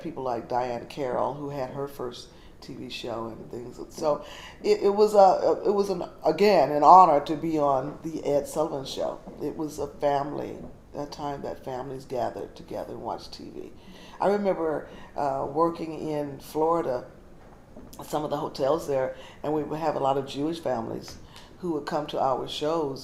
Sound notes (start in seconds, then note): none